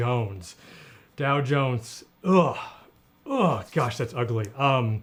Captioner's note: disgusted sounds